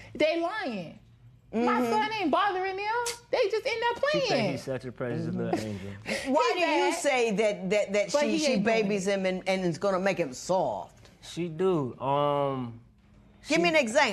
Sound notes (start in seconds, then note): none